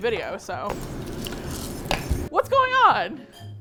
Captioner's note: loud buzzing/whirring outside